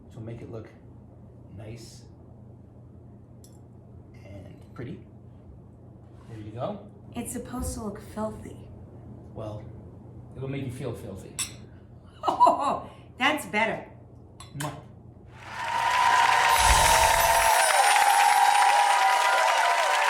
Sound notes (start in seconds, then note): 15.3 cheering